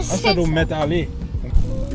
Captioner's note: haitian Creole